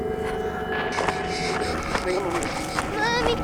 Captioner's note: breathing heavily